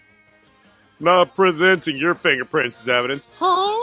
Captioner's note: deep voice; high voice